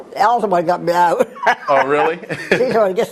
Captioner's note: laugh